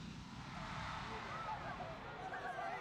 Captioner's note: speaking japanese